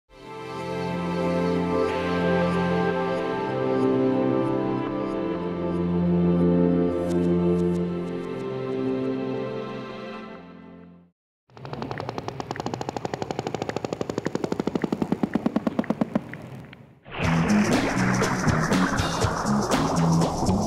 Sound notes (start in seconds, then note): 11.6 whale clicks; 17.2 upbeat pop music